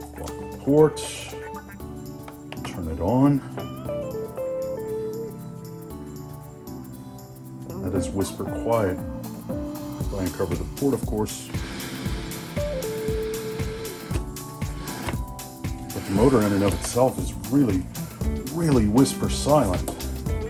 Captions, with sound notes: Block the port… Turn it on… That is whisper quiet. If I uncover the port, of course… [air noises] But the motor in and of itself is really, really whisper silent.